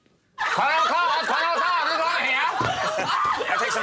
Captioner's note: crowd laughs